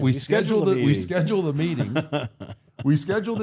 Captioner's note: laughing